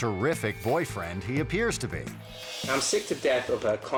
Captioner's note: air whoosh